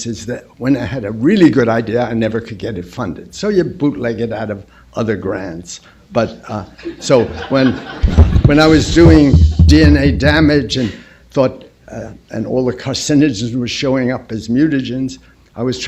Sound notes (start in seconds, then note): 6.7 laughter